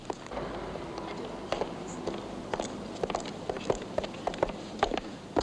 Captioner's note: soft chattering